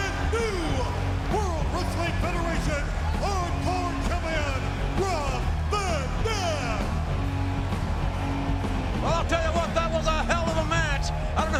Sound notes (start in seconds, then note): 7.8 audience cheering and clapping